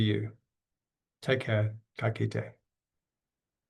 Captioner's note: speaks in foreign language